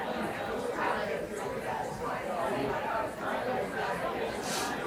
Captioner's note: audience chatter continues